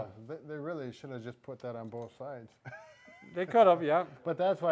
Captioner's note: chuckles